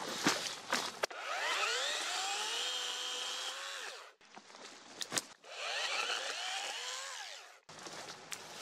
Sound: leaves and branches crackling; chainsaw running; leaves and branches crackling

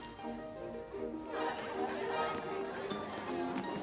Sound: indistinct chatter

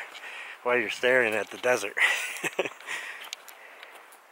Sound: laughs

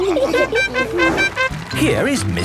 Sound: all laughing; horn tooting

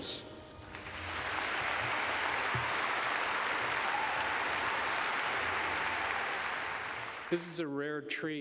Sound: applause

